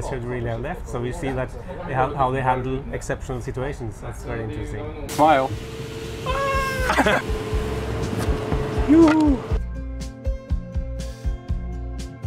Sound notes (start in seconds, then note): 6.3 laughs; 9.4 gentle music